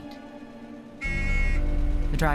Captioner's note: horn honks